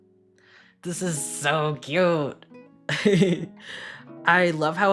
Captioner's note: laughs